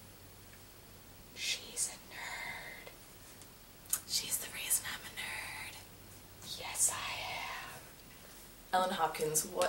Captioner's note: whispers